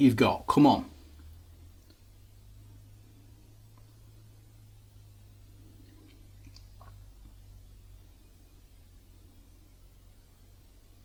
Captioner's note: silence